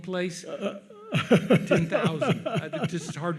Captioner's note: laughs